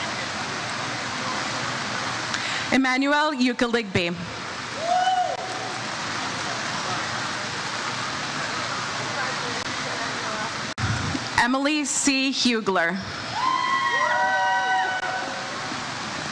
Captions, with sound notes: Emmanuel Ukhueligbe. (audience member cheers "Woo") Emily C Hughler. (crowd cheers)